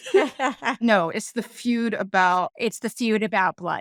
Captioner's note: laughing